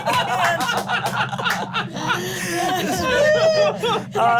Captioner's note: laughing